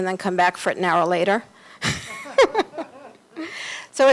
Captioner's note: laughter